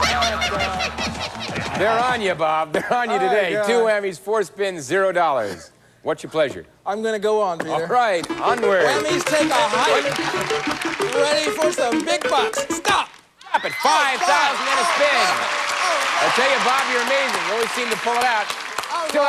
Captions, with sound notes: CoH@me on,H@ Big BH@ucks.@ H@Stay aH@way, WH@hammy.H@ I H@can't H@stand H@you.H@ StH@op!H@ @ StH@opped H@at $. H@ ThatH@'s $1,@ WhH@oo!H@ [aH@udiencH@e applH@auding] H@About H@@ lessH@ than H@M@ H@One moH@re s.